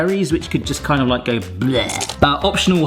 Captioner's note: belches